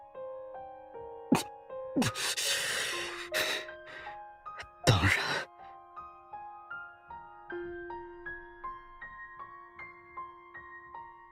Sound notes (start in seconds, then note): 4.6 cough